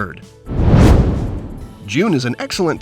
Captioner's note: whoosh